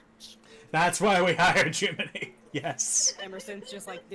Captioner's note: laughing